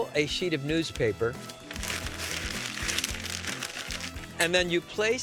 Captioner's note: newspaper crumpling